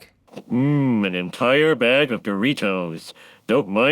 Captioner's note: In Homer Simpson's voice